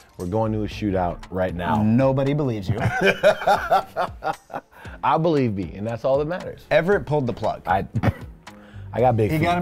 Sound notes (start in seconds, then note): 2.8 laughs; 8.2 laughs